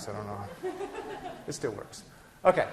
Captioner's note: class laughing